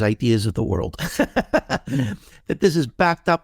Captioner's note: laughing